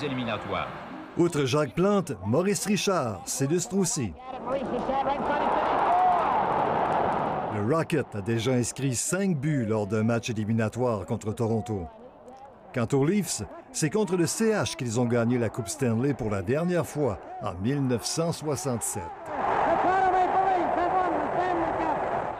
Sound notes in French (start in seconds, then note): 7.0 cris de la foule